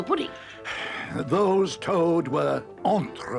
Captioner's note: Badger sighs